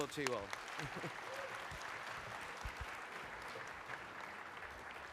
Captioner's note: audience clapping